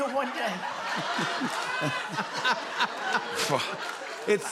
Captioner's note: laughter